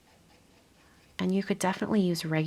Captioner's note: brush scraping